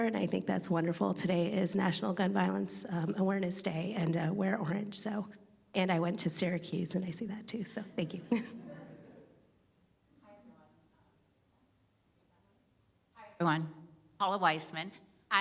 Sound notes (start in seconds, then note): 8.2 chuckles; 8.3 audience laughing